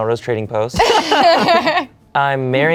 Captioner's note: laugh